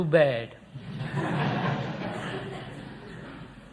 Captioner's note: laughter